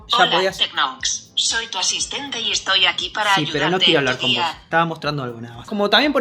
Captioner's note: android assistant voice